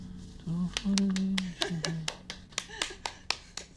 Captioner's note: Jane applauds; Jane chuckles